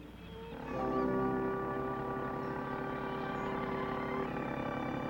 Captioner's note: motor running